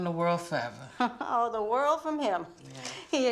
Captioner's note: laughs